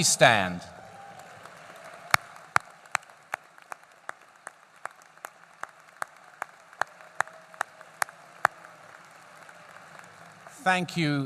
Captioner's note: applause